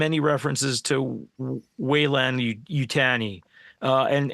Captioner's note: none